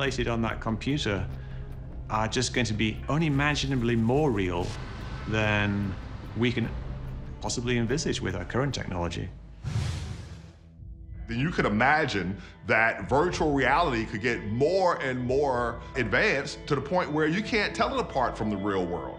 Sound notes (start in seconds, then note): 9.6 whoosh